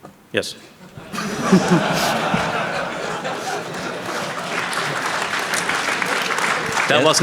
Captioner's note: laughter; applause